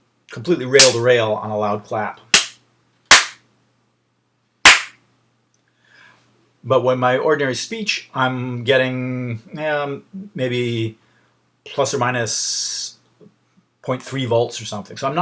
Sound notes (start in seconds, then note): 4.7 claps